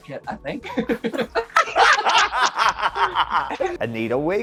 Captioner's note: both laughing